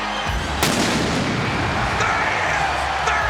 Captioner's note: audience continues cheering; ominous music continues; pyro bangs